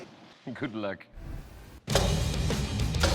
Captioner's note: chopping